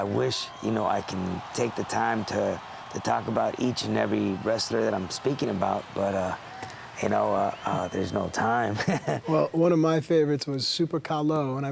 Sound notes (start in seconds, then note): 8.6 laugh